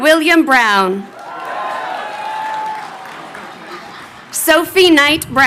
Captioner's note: crowd cheering